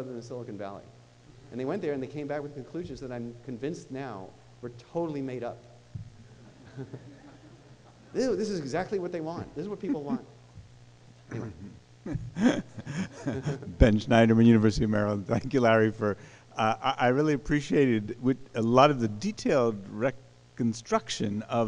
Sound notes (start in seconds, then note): 6.3 laughing; 14.0 voiceover